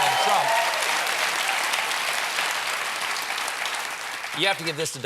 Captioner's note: applause